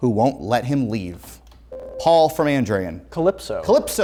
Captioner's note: ringing